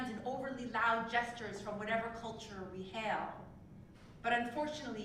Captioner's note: none